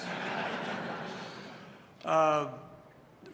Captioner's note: laughter